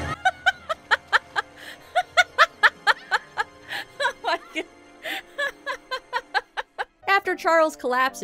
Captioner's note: laughing